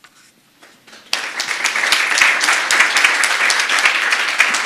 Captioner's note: applause